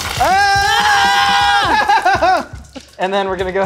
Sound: screaming

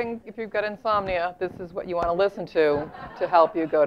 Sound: laugh

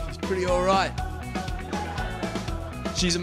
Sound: audience laughing

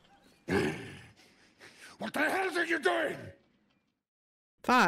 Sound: growls

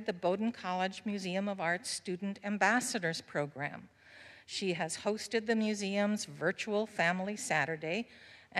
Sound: none

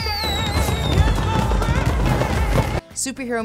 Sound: high-pitched voice; sound of fireworks

